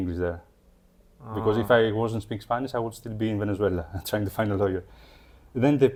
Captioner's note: laughs